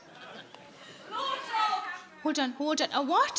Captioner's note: people shouting